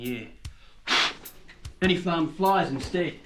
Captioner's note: blows aggressively